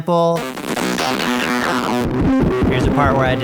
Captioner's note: distorted fun lasers